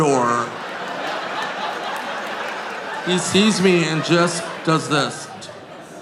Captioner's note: audience laughing